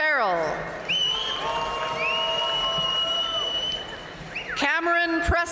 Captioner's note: audience cheering and applauding